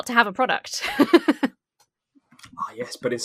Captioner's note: laughs